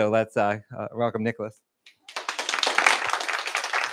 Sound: applause

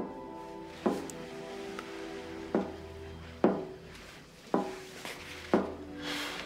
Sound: knocking continues

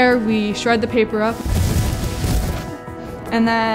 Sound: sound of paper falling into bin

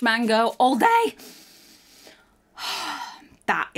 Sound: inhales and exhales

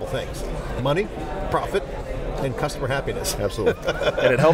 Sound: laughs

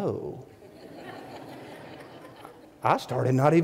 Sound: audience laughing

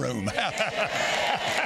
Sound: laughing; congregation applauding

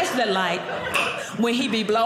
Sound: clicks tongue

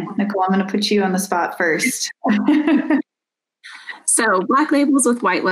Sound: laughs

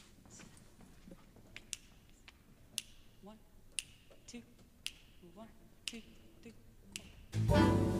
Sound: singer snapping fingers

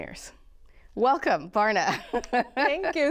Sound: laughter

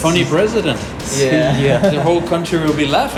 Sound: laugh

